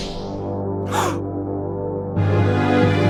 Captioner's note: gasps